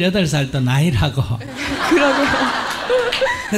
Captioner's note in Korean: 질문자 웃음; 청중 웃음